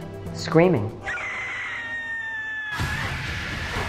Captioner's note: screaming